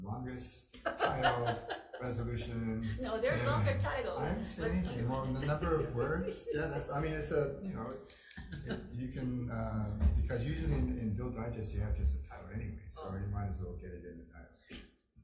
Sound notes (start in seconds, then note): 0.8 laughing; 4.4 laughs